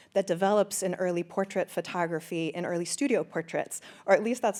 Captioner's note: none